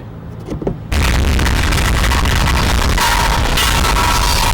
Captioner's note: clanging metal